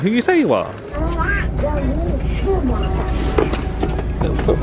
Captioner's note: child chattering